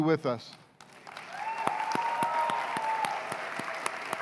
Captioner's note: cheers and applause